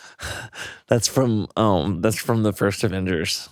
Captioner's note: chuckles